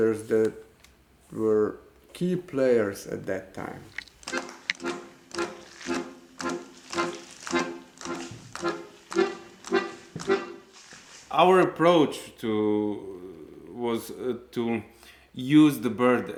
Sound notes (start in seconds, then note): 4.0 upbeat music; 5.3 pages turning